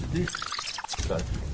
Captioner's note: tape squealing